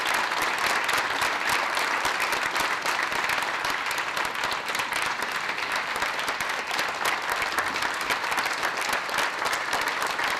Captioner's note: applause